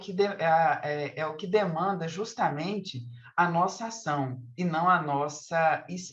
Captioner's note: continues speaking in Portuguese